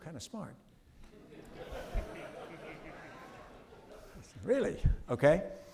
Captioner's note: audience laughing